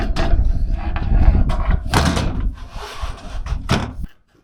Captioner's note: metal clanging